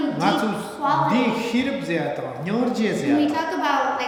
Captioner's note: speaking tibetan